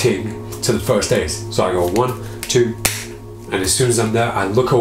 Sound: slaps deck

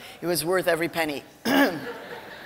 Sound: clears throat; laughter

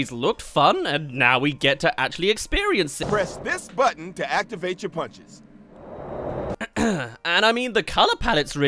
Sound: clears throat

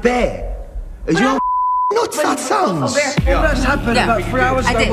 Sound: arguing

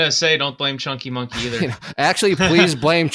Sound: laughs

